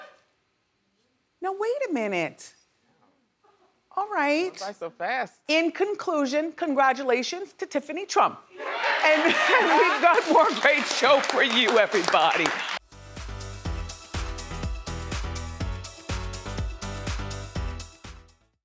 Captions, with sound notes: Now wait a minute. All right. Went by so fast. In conclusion, congratulations to Tiffany Trump. (audience laughs) And we've got more great show for you, everybody. (energetic electronic music)